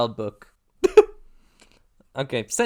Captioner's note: gross cluck